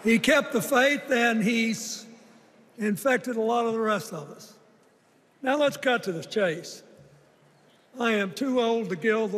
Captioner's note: chanting "thank you, joe"